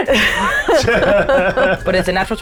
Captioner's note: players laughing